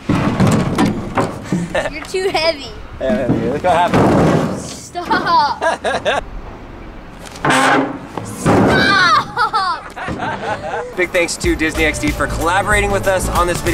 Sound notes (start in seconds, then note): 8.7 laughing